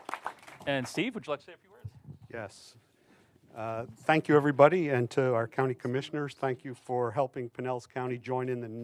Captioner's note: applause